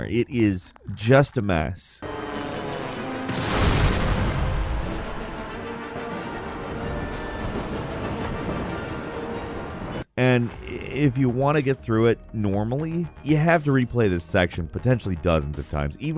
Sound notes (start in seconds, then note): 2.2 dramatic music; 3.1 explosion blasts